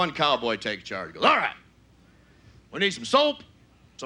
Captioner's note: gruff voice